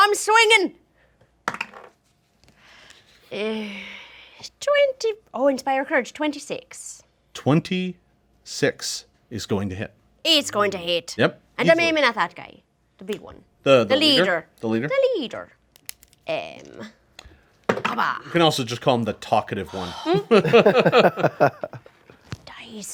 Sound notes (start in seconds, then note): 1.5 dice roll; 3.6 sighs; 15.8 dice roll; 20.0 group laughs